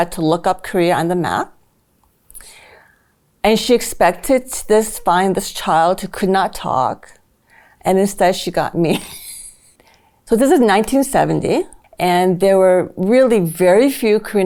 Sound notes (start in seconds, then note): 8.9 chuckles